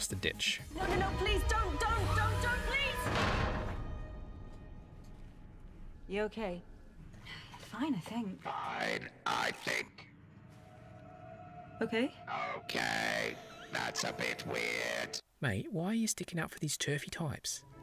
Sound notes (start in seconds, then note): 5.3 clang; 8.9 Dalek voice